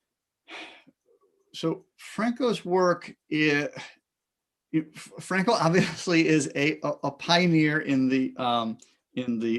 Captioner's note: sighs